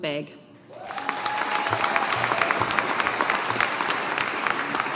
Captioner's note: audience applauding